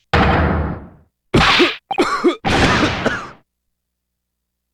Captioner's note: cough